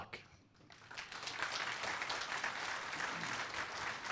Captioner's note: applause